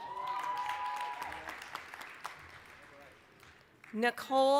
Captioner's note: applause, cheering